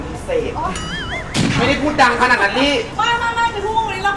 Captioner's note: Yelling at each other since the morning